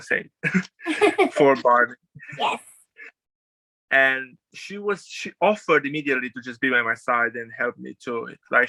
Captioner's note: laughs